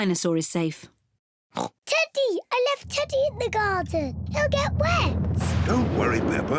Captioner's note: oinks